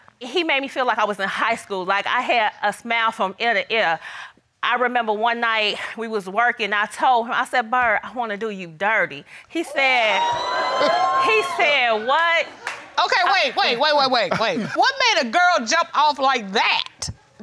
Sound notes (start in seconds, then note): 9.7 audience cheers